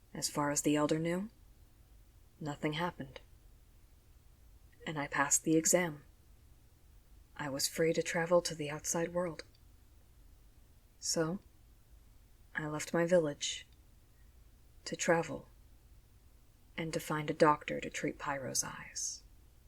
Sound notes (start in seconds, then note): none